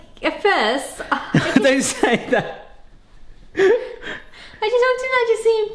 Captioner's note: laughs